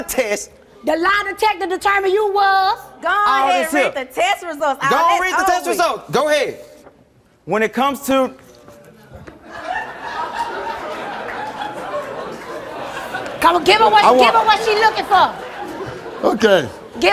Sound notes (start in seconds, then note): 9.4 audience laughing